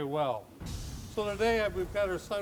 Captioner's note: woodburner steams